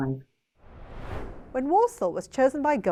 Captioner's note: screen swooshing